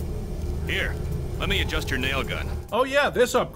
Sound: with a clearly different voice

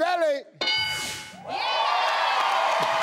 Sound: board dings; crowd cheers

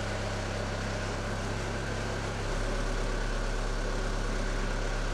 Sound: skid steer motor running

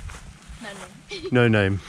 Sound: laughs

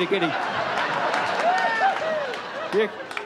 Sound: audience laughs

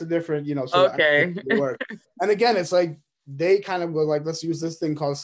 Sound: laughs

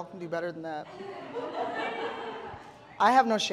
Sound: audience laughing

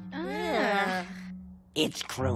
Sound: groaning

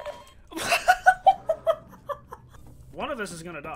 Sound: loud laughing

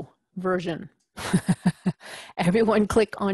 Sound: laugh

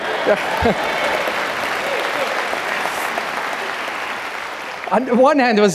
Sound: audience clapping and cheering

